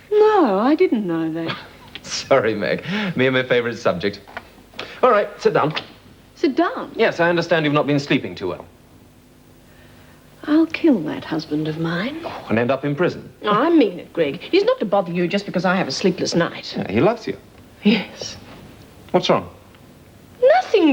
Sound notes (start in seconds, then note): 2.4 laughs